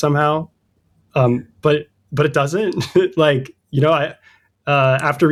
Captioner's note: uh; laughter